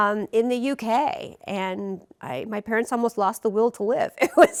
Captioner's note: rires